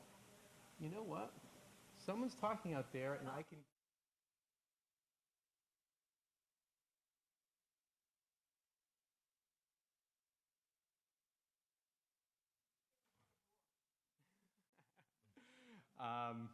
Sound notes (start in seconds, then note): 9.8 audio fades away